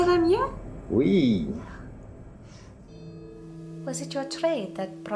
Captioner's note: speaks in foreign language